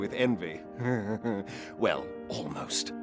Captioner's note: chuckles snarkily